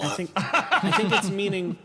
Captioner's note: laugh